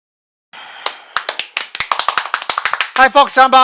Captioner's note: clapping